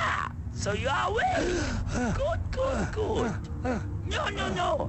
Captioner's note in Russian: испуганно ахает